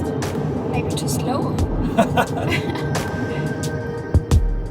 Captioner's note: laughing